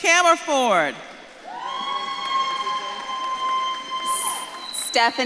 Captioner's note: audience claps and cheers